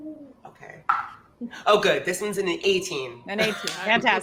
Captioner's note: dice rolls